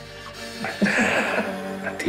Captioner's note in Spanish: Risas